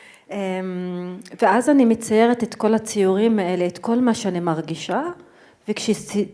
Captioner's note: speaking in foreign language